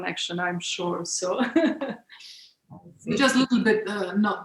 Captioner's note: laughs